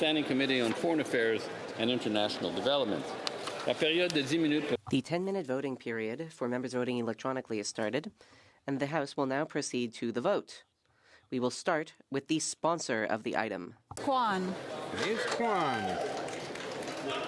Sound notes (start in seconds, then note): 8.2 speaking French